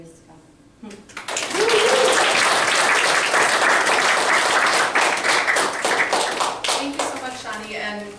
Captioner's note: applause